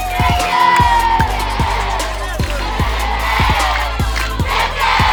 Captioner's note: cheering